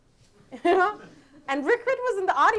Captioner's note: audience laughing